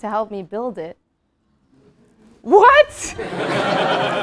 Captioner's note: laugh